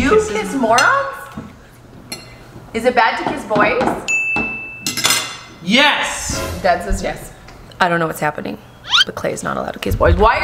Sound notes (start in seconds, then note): 4.3 bell rings; 4.8 silverware clattering